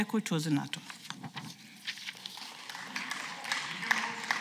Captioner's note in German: Beifall